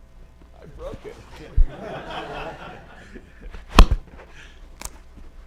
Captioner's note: laughter